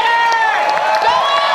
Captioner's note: audience cheering and applause